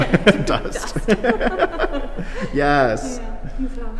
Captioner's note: both people laughing